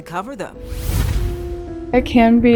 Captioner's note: logo whooshes